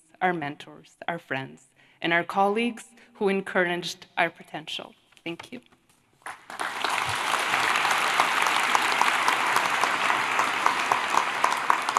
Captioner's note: applause